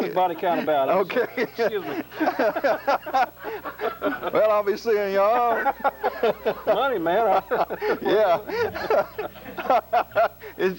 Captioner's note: laughter